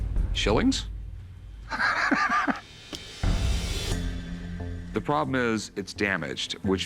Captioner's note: laughs